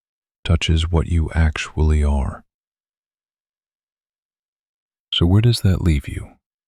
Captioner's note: pause